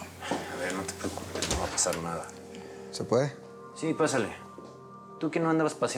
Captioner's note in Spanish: Ruido al abrir